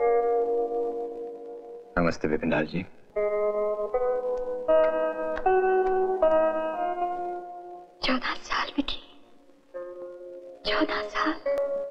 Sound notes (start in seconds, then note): none